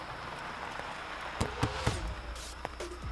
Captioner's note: Car pulling up